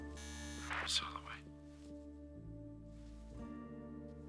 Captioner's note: intercom buzzes